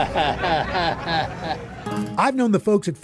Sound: chuckles

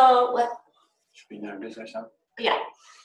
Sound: male Voice

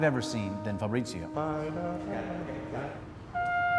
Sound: humming

